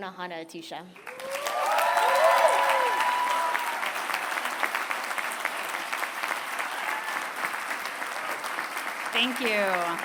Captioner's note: applause